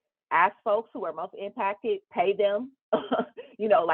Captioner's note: chuckles